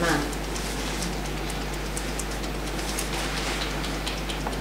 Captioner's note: fingers tapping